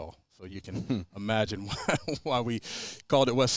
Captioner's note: chuckles